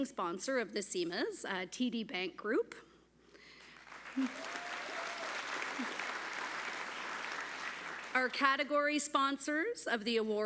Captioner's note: applause